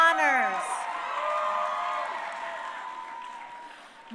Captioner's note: crowd cheering